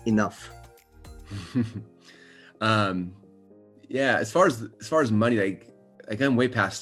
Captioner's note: chuckles